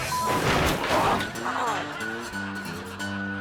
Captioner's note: bike crashing; driver moaning; twangy music